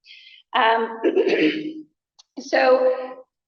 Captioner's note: coughs; laughter